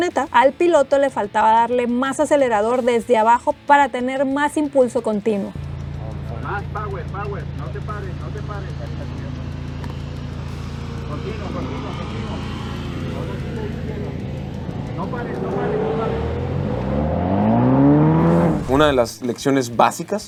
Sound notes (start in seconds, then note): 7.5 voice on radio; 16.1 engine revving